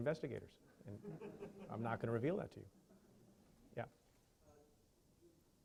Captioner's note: chuckling